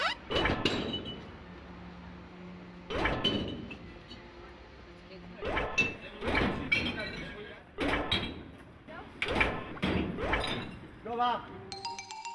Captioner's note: bottles Clanging